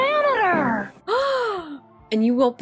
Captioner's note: le gasp